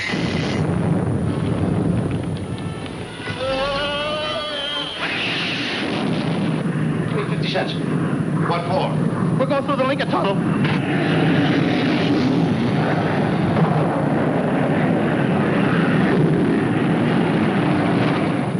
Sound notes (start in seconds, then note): 0.0 artillery firing; 4.6 object whizzing; 15.5 aircraft flying